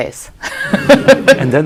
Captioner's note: laughs